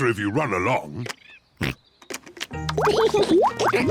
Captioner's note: oinks; laughs